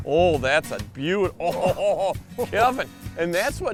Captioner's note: laughs